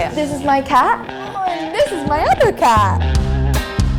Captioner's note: groans; upbeat music